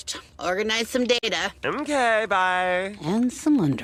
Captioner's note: quietly